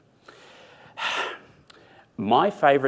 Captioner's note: sighs